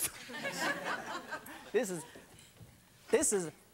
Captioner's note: laughing